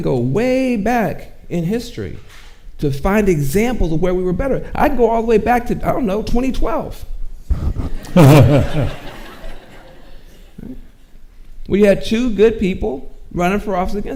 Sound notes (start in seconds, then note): 7.5 and audience chuckles